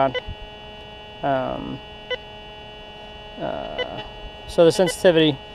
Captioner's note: detector beeps